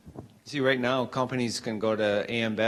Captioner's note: voiceover